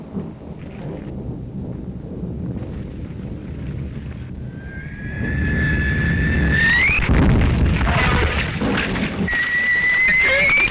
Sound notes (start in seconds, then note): 4.4 bombs whistling